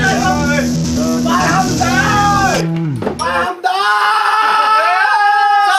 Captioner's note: screams